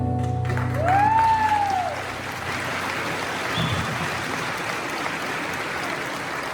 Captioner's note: applause